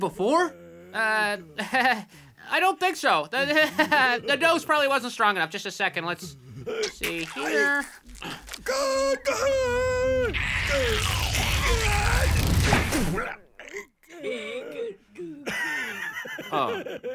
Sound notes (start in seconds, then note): 10.6 grunting